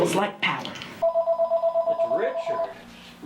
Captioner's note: phone ringing